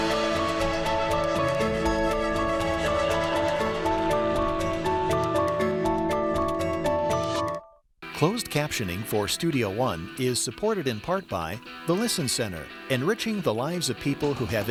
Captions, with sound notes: (music softens) - [Voiceover] Closed captioning for Studio One is supported in part by: